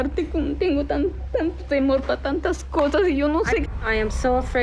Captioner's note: speaking Spanish